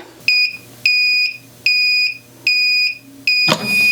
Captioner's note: press beeping